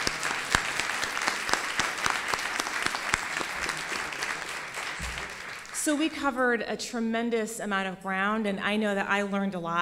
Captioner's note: �applause�